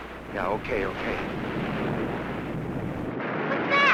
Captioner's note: waves roaring